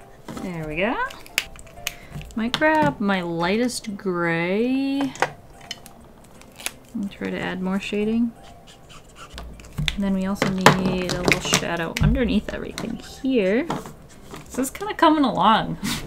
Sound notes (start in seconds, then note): none